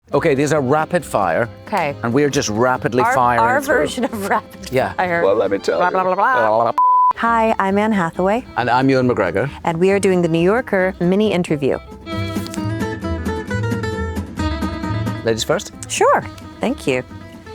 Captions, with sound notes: - Okay, there's a rapid-fire, and we are just rapidly firing through. - Our version of rapid-fire. - Well, let me tell you. - Blah, blah, blah, blah. - Blah, blah, blah. [video screen beeps] - Hi, I'm Anne Hathaway. - And I'm Ewan McGregor. - And we are doing the "New Yorker Mini Interview". [bright energetic music] - Ladies first? - Sure, thank you.